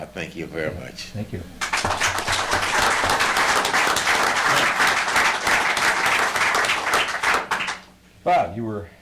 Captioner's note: audience Applauds